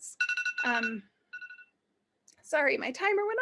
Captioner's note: alarm ringing